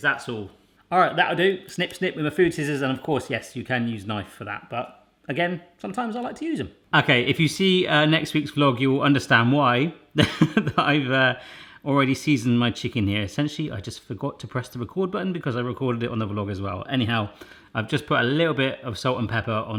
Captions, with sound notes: That's all. Alright that'll do, snip snip with a food scissors. And of course, yes you can use knife for that. But, again, sometimes I like to use it. Okay, if you see next week's vlog, you will understand why (laughs) I've already seasoned my chicken here. Essentially, I just forgot to press the record button because I recorded it no a vlogger's vow. Anyhow, I just put a little bit of salt and pepper